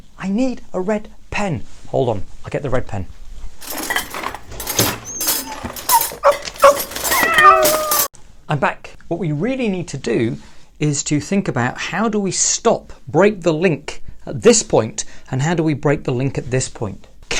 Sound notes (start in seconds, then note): 3.6 rummaging; 5.8 dog barking; 7.0 cat meowing